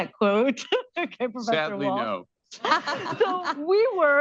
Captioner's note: laughter